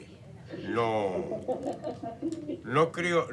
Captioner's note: background laughter